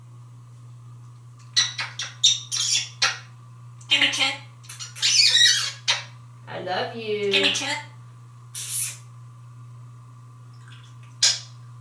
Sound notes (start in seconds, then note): 1.5 kissing sound; 4.6 kissing sound